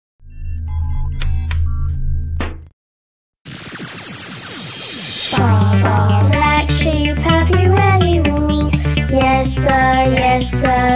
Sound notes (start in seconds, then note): 0.4 electronics beep; 0.9 laser fires; 4.4 techno music